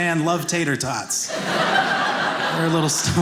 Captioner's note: audience laughing